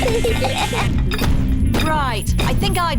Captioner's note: feet stamping